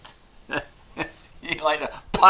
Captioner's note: chuckles